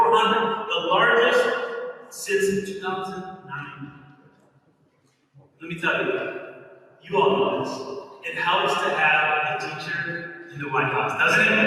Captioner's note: applause. Inaudible word